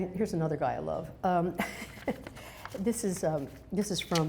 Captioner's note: laughs